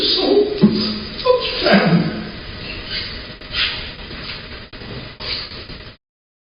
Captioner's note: voice cracking